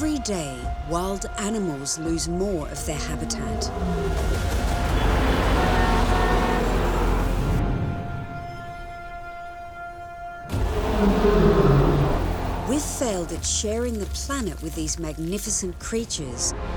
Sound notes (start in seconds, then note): 3.1 lion roaring; 5.3 horns blaring; 10.5 lion roaring